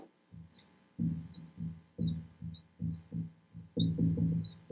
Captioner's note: marker scratching